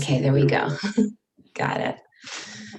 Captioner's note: chuckles